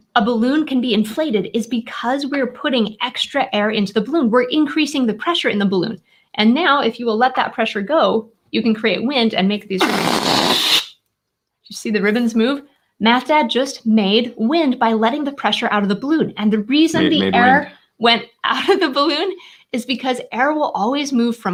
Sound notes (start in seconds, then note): 10.3 air whooshing